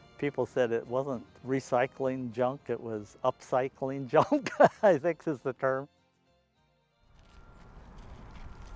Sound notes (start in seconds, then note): 4.2 laughing